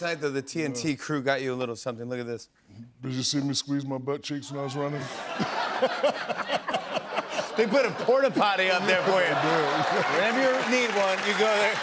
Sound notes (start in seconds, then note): 5.0 laughter; 11.6 applause